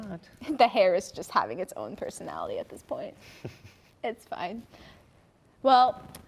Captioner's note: chuckles